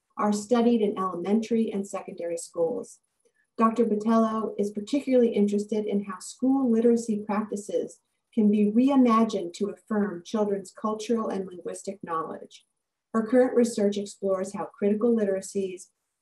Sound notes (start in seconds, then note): none